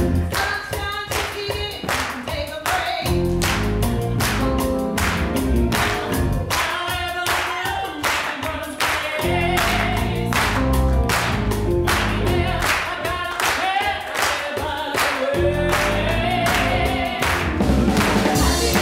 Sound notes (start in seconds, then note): 0.0 audience clapping to beat; 0.0 lively music; 2.6 audience clapping; 6.5 singing; 10.3 audience clapping